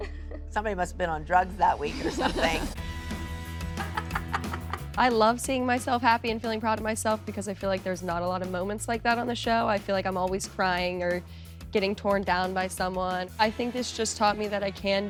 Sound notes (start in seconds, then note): 1.9 laughs; 2.2 upbeat music plays